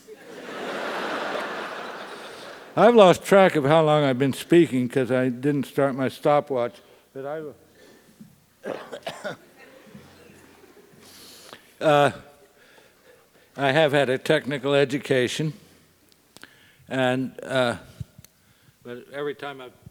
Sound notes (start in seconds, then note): 0.1 laugh; 8.6 cough